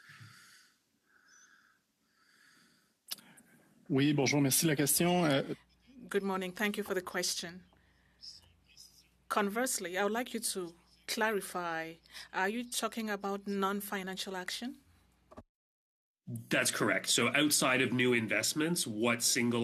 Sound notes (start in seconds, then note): 7.6 speaking French